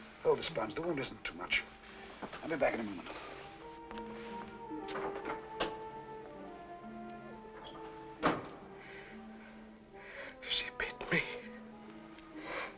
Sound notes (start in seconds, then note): 4.8 door opens; 7.5 door closes